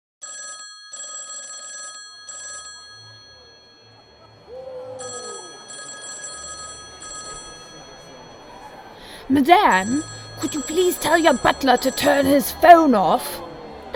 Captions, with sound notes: (phone ringing) (phone ringing) CHARACTER 1 - Madam, could you please tell your butler to turn his phone off?